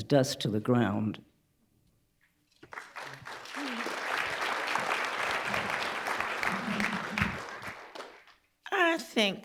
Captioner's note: applause